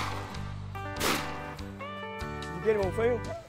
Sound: gunshot

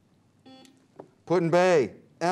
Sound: buzzer beeps

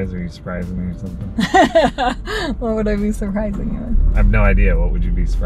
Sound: laughing

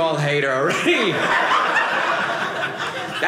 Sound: audience laughing

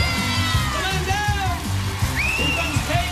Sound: shrieks

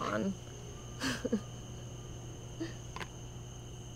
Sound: Savannah laughs

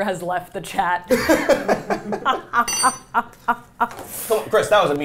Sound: all laughing

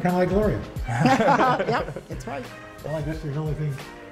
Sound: laughter

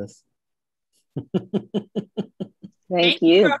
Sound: laughing

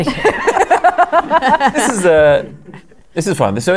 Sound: laughter

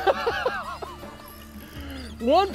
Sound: laughs

